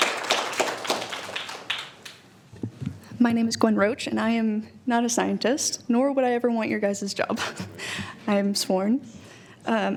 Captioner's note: applause